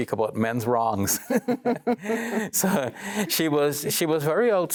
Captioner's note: quiet laughing